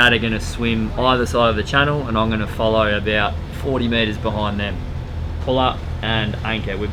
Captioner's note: none